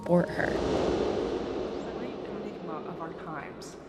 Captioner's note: soundbite of whooshing